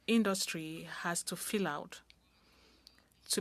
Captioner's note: speaking french